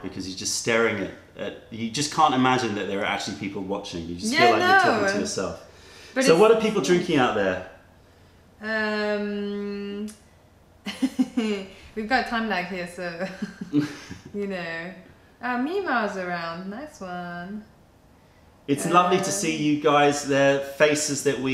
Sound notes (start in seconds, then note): 10.8 laughter